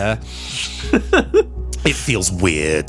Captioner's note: laughs